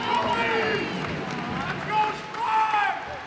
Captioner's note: cheers and applause